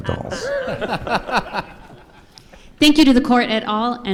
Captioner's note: participants laugh